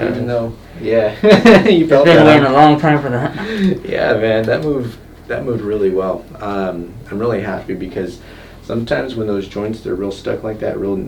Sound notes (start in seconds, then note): 1.2 laughing